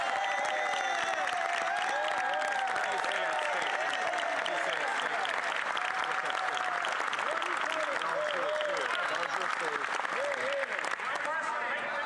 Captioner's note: cheers & Applause